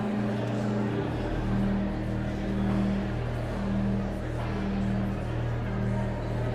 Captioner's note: sanguine organ music continues; audience chattering continues